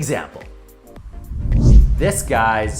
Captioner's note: air whooshing